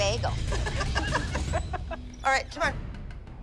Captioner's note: laughter